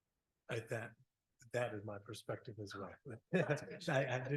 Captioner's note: chuckles